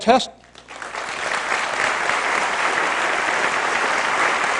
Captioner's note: applause